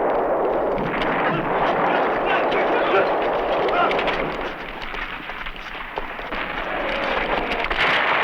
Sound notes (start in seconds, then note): 2.0 shouting